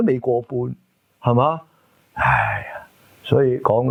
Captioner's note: sigh